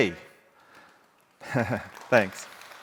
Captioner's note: audience applauding